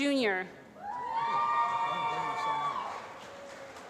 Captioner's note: applause